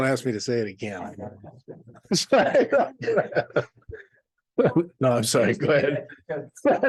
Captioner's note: laughter